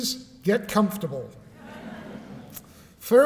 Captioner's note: laughter